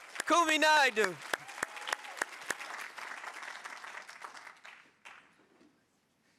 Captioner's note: audience applauding; audience cheering